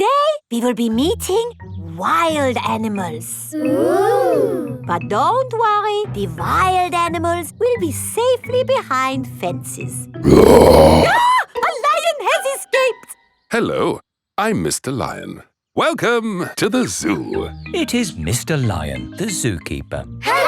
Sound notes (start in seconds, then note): 10.2 roars; 10.2 screams